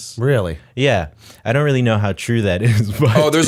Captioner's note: chuckle